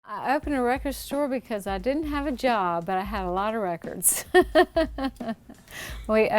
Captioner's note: laughing